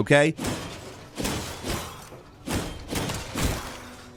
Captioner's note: sword swinging